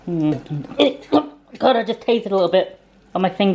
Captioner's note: choking sounds